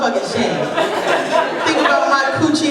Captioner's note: laughter